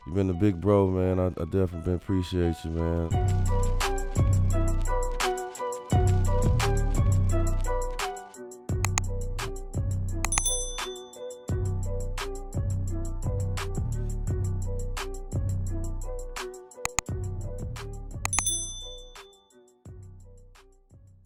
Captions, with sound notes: You been big bro man, I definitely didn't appreciate you. (upbeat hip-hop music) (bell ringing) (bell ringing)